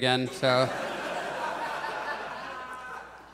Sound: audience chuckles

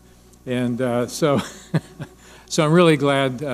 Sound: laughing

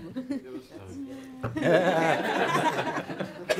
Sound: laughter

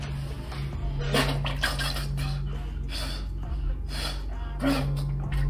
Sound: Mississippi retching

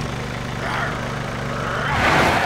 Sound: growling

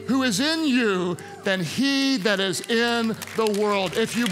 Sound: congregants cheer

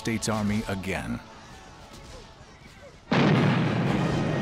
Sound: war sounds

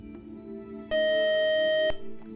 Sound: beeping

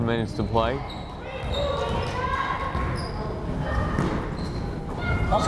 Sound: crowd chattering

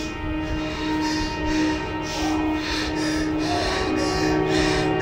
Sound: panicked breathing

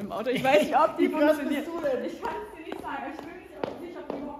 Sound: laughs

